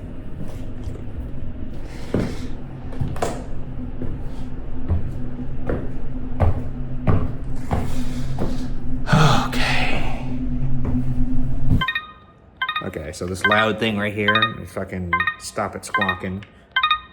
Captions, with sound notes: (footsteps stomping) Okay. (instrument beeping) Okay, so this loud thing right here, if I can fucking stop it squawking.